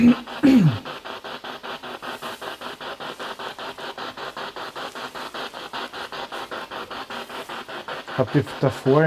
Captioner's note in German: Noise of the spiritbox in the background